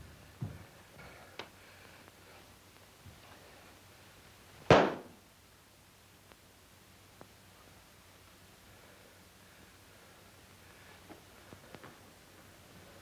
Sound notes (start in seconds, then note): 4.7 fist thuds